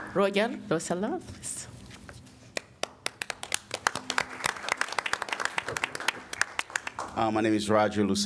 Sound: applause

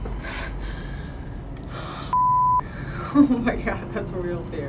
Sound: heavy breathing

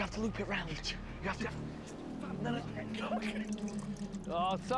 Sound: muttering and giggling

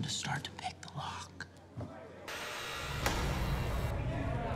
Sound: door buzzing

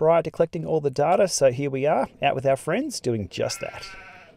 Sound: sheep sounds

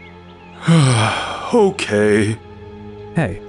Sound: sigh

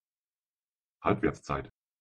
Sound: fast Pronunciation

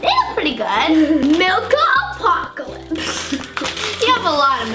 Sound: laughs

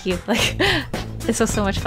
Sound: laughs

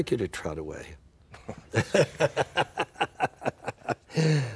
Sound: <i>laughter</i>

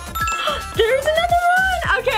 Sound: ding

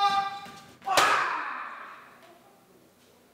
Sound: vocalising; bangs

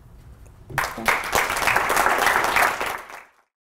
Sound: applause

